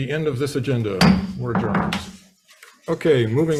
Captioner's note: gavel bangs